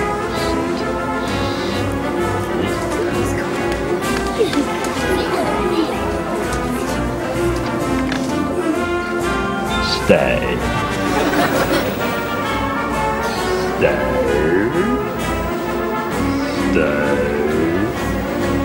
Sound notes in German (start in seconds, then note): 3.8 Flüstern